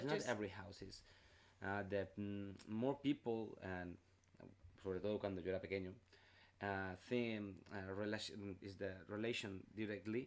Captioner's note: in spanish